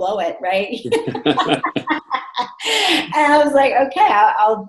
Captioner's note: laughing